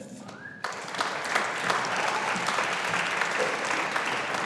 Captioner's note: audience applauding